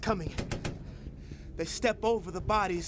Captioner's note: gun shots